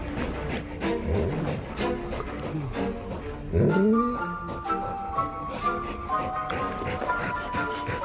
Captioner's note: dog breathing heavily